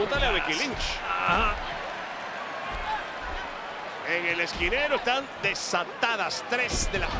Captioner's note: applause